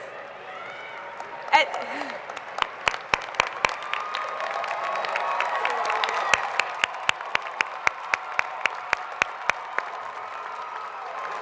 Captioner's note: applause